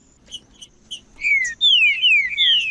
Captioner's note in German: trinca ferro cantando